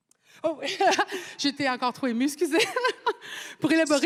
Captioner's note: speaking French